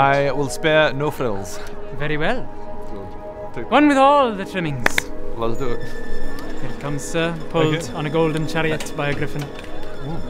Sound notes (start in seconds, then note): 4.9 clap clap